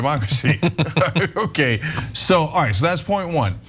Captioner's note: laugh